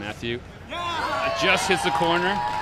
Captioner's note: yells; crowd cheers